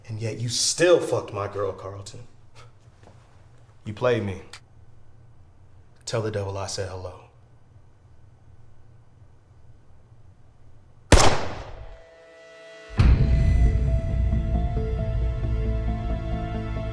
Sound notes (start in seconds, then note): 11.1 gunshot booms; 12.8 dramatic menacing music